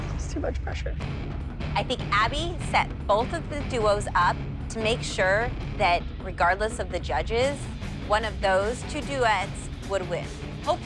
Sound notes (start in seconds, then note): none